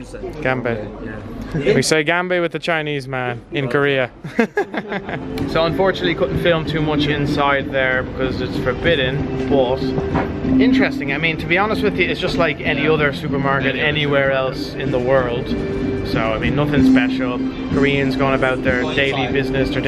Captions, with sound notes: We say (speaking foreign language) with a Chinese man in Korea. (chuckles) So unfortunately, couldn't film too much inside there because it's forbidden, but interesting. I mean to be honest with you, it's just like any other supermarket anywhere else in the world. So nothing special. Koreans going about their daily business,